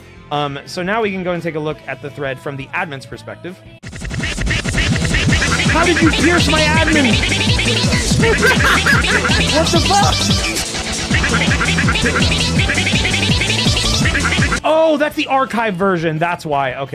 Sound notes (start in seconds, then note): 7.4 laughs